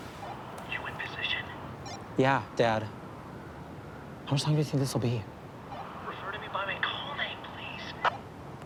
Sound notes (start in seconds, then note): 2.4 phone bleeping; 5.7 phone bleeping